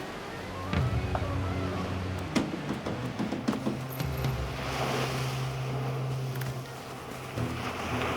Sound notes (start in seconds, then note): 0.6 tense dramatic music; 2.3 fists bang; 4.0 waves crash